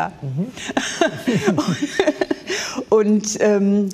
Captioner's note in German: Sie lacht